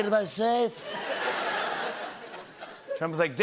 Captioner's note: laughter